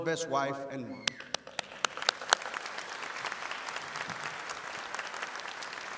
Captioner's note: audience applauding